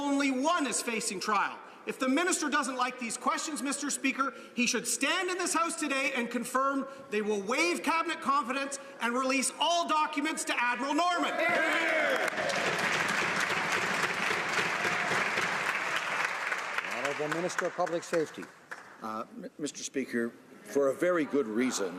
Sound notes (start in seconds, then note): 16.2 some Applause